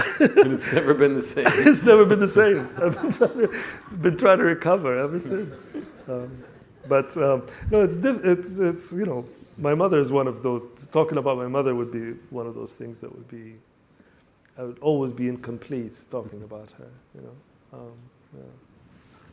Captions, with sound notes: - And it's never been the same. - It's never been the same! (laughs) I've been trying to recover ever since. But, no, you know, my mother's one of those, talking about my mother would be one of those things that would be, I would always be incomplete talking about her, you know? Yeah.